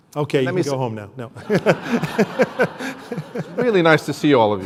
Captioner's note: laughter